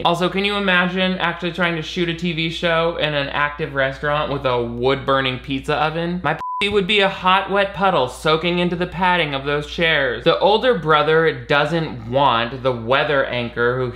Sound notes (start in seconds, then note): 6.3 beep